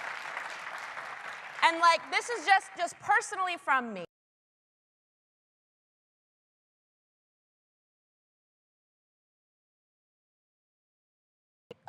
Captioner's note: applause